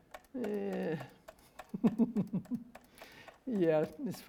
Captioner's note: laughs